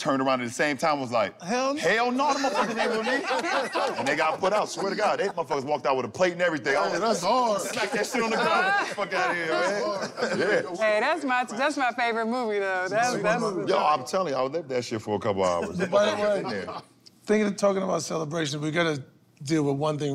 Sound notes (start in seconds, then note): 2.0 laughter; 15.5 laughter